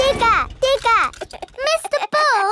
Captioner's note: chuckles